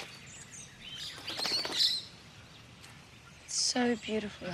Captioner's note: birds chirp